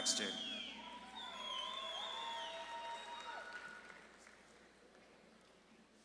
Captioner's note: audience claps and cheers